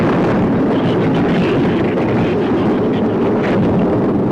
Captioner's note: thunder claps; shrews chatter